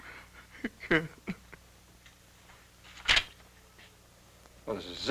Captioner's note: sobs